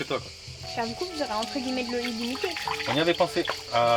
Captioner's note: indistinct chatter